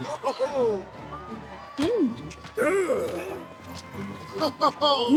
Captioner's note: laughter; grunts; laughter